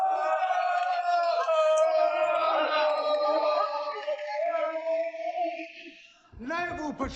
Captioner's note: men yelling